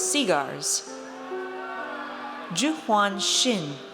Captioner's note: audience cheers